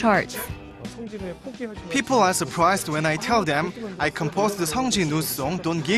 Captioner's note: korean